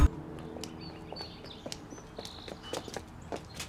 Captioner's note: birds chirp